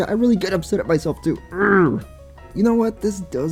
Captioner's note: grunting